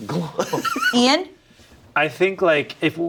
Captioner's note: laughs